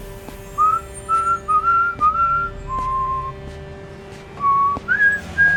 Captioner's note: pedestrian whistling cheerfully